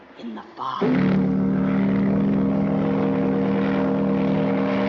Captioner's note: horn Blowing